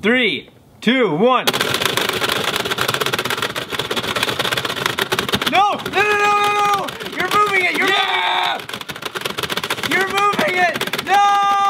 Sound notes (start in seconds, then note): 1.5 game clacking